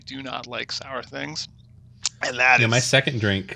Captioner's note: heavy breathing